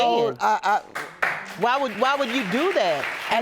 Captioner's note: audience applauding